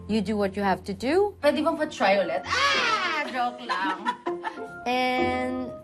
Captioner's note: laughs